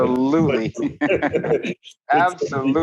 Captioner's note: laughing